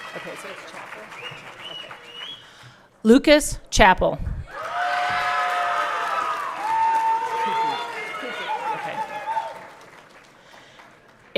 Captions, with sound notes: Is it okay to say Chappell? Lucas Chappell. (everyone cheering)